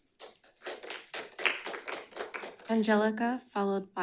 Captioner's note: audience clapping